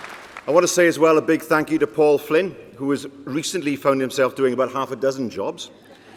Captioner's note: applause